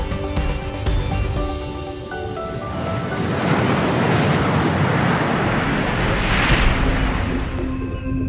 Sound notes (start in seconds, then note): 2.7 water splashing